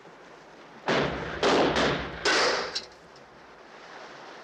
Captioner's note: gunshots